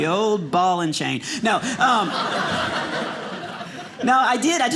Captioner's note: audience laughing